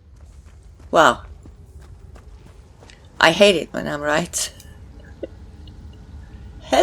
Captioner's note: chuckles